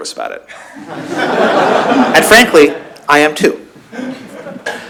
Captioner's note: laughter